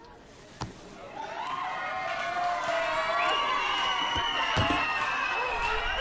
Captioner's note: cheering & whistling continueues